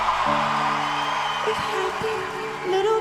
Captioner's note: audience cheers